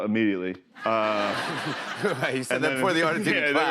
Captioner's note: laughter